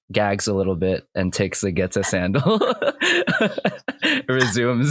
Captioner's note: laughter; laughs